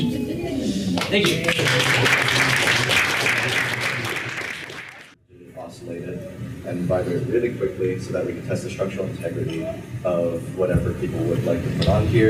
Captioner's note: applause